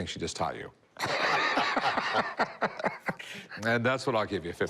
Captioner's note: laughter